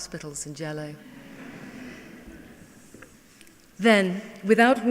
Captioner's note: laughing